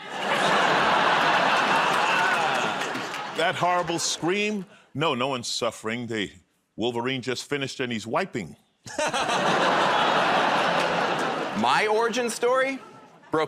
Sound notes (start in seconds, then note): 0.0 laughter; 9.1 audience groans; 9.1 laughs